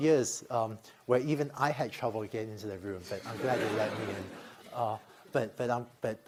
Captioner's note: laughter